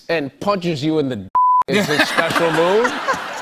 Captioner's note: laughter